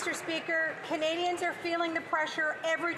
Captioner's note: some Applause